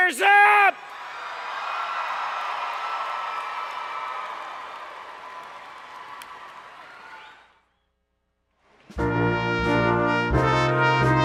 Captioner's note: cheering